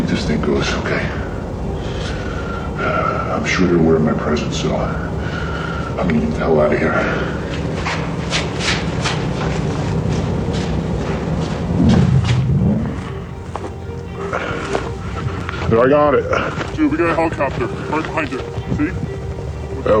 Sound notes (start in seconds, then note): 2.2 ominous music; 15.7 deep Voice